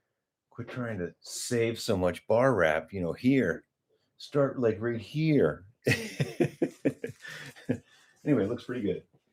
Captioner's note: laughter